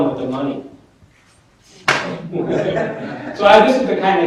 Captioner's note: laughter